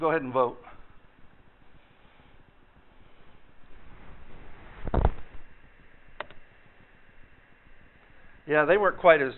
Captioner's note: pause in dialogue